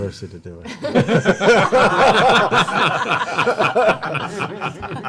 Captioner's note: laughter